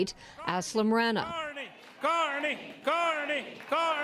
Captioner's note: chanting